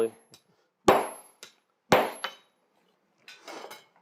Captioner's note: metal clangs